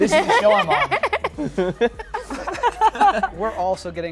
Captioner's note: laughter